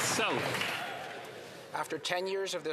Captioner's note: some Applause